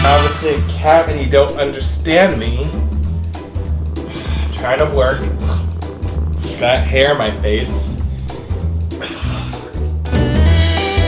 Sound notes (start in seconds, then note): 4.0 sigh